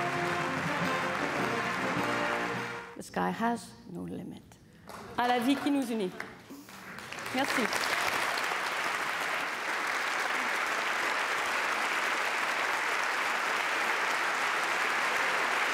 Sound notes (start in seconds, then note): 1.8 applause; 11.0 speaking French